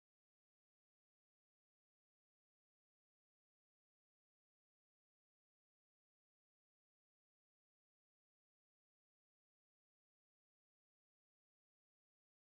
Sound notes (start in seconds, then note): none